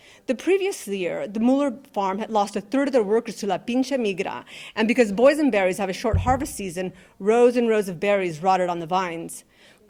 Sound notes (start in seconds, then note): 3.7 speaking in Spanish